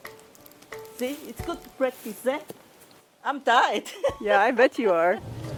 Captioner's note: laughs